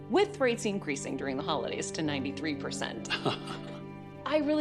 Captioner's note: chuckles